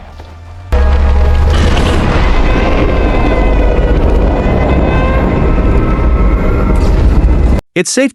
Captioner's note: slowed, deep, and loud king ghidorah roar